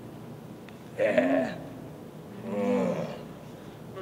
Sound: grunting

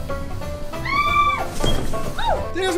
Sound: screams

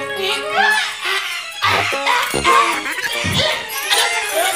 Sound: gasping

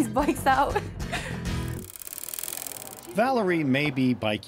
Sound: giggles

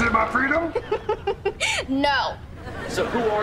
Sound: laughing

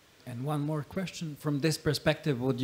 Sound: none

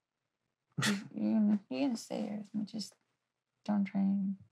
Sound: he chuckles

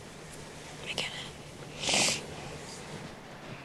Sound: sniffles

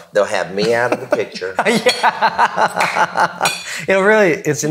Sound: laughing

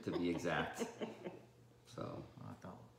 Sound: laughing

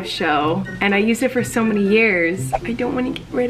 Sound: whooshing

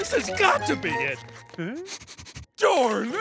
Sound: sniffing

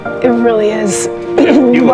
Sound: clears throat

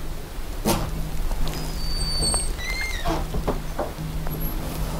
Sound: squeaking sound

